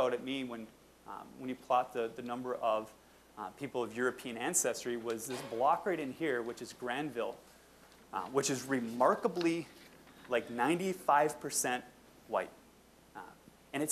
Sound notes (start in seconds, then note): none